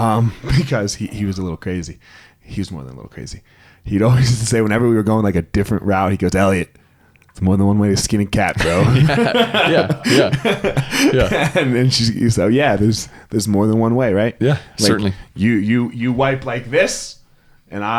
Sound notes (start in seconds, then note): 0.4 laughs; 8.5 both laugh